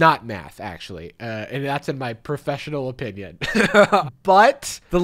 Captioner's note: laughs